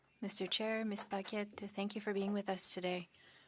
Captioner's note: speaking French